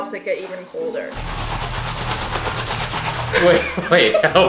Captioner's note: beans shaking; laughing